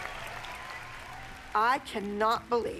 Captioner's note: cheering and applause